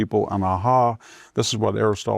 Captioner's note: Victor speaking in foreign language